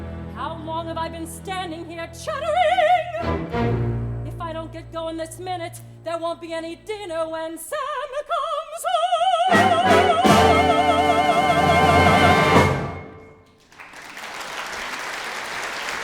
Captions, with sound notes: How long have I been standing here chattering? If I don't get going this minute, there won't be any dinner When Sam comes home! (APPLAUSE)